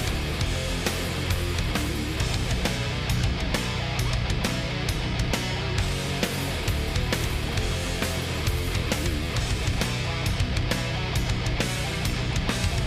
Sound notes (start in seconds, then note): none